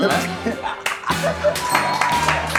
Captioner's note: laughing